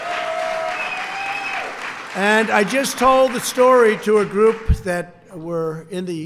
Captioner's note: applause